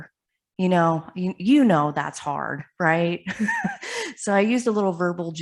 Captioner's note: chuckles